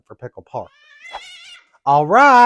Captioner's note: meow